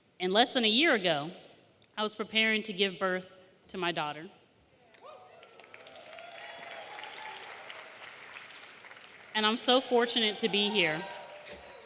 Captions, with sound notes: And less than a year ago, I was preparing to give birth to my daughter. (audience cheering) (audience applauding) And I'm so fortunate to be here.